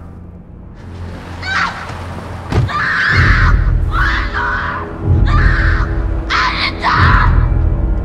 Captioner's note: screaming